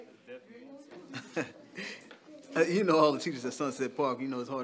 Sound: laughs

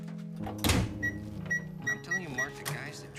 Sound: door clattering; pensive music; microwave beeping

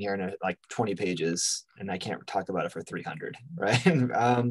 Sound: laughs

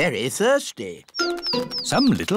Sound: tweeting

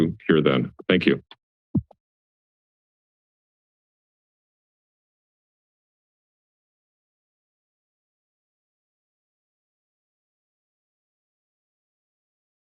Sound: silence

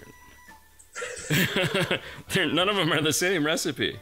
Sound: chuckles

